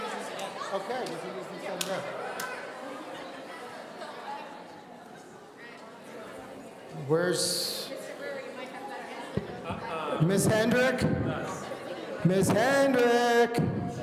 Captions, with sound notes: Okay, so this is sudden death. (audience conversing excitedly) Where's... Miss Hendricks? Miss Hendricks?